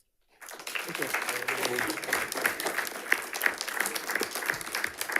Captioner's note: audience applauding